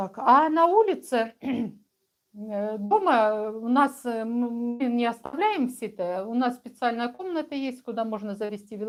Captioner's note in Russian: откашливается